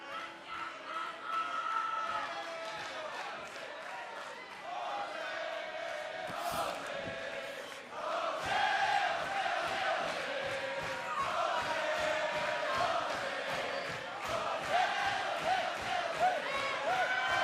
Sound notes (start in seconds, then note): 4.6 fans chanting